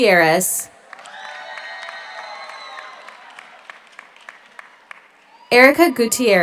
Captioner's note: audience applauds; audience cheers